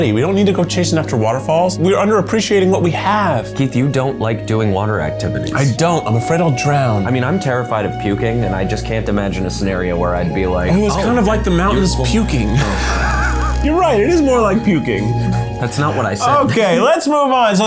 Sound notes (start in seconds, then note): 13.3 laughs